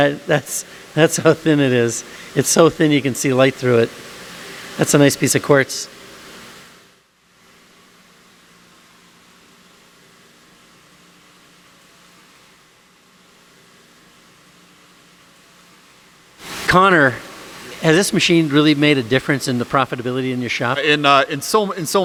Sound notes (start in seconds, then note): 7.3 silence